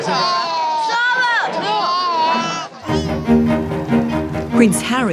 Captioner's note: baby crying